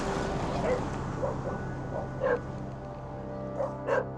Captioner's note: dogs barking